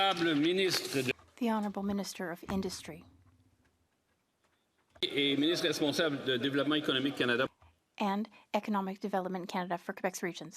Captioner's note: applause